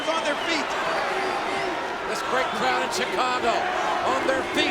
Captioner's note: crowd chanting